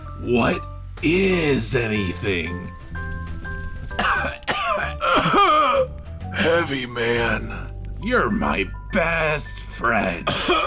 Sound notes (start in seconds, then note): 4.0 coughing; 10.2 coughs